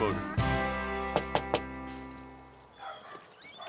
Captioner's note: knocking